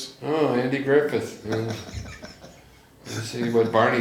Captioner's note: laughs